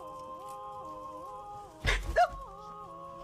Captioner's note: shrieks